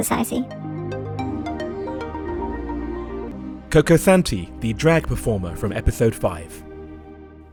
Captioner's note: voiceover